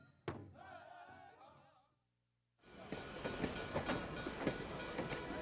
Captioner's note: train bell ringing